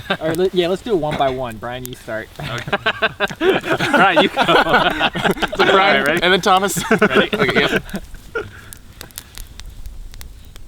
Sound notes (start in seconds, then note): 2.2 all laugh